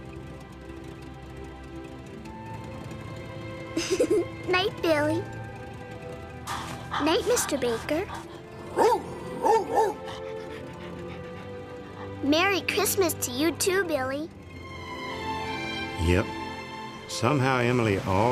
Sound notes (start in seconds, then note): 3.7 giggling; 8.6 dog barking